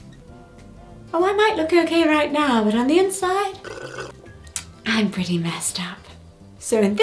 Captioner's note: takes a drink